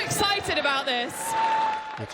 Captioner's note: cheering